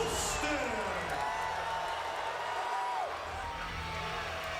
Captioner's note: crowd cheering